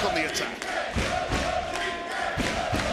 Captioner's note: crowd chants